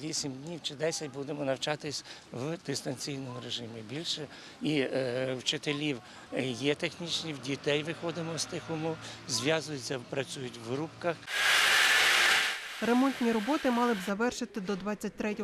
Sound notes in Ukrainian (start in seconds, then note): 11.3 працює техніка